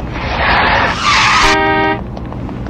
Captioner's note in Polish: klakson